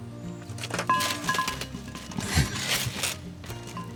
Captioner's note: coal thudding